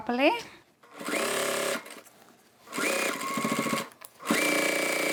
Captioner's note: sewing machine whirs